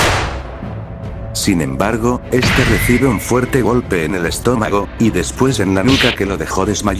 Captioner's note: sound of gunshots